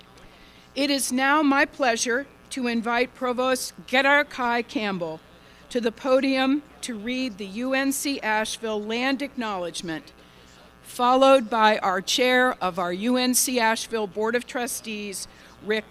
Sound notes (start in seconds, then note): none